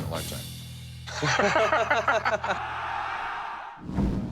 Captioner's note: laughter